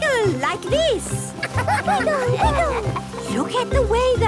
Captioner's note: laughter